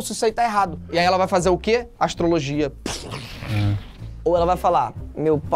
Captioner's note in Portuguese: som de explosão